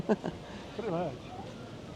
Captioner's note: laughs